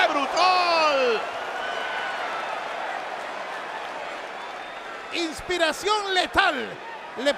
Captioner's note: applause